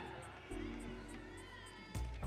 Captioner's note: audience cheering